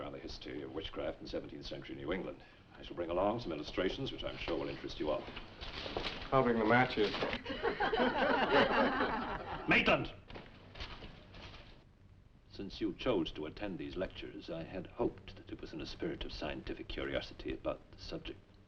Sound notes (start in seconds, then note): 7.4 students laughing